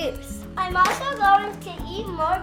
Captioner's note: door shuts